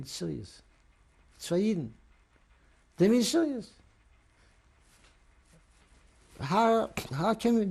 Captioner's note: non-english